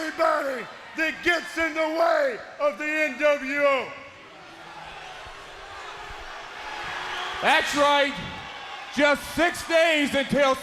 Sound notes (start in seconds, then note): 2.0 crowd cheering